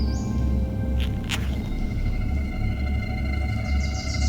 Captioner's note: zipper whizzes